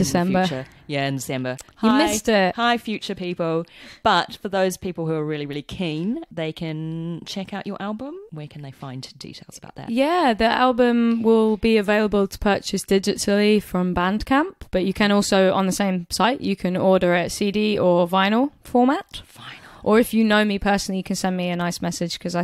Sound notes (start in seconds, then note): 19.1 whispers